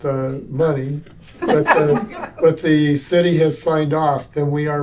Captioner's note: laughter